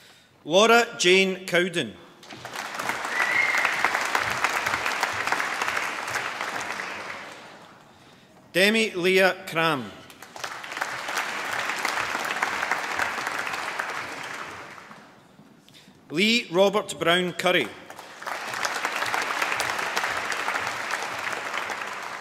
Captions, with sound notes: Laura Jayne Cowden. (APPLAUSE) Demi Lea Cramb. (APPLAUSE) Lee Robert Brown Currie. (APPLAUSE)